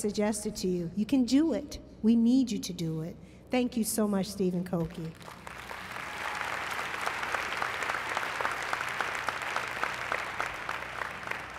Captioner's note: applause